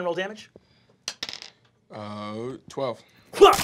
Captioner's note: dice clacking